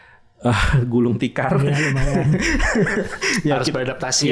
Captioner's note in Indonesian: tertawa